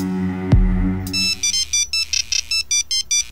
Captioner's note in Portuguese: Celular tocando